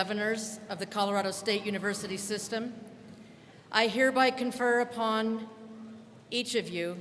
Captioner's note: none